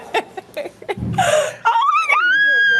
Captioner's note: laughing